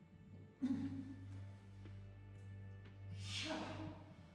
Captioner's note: groans